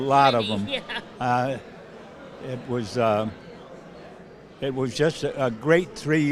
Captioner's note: laughs